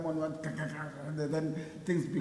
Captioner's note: groaning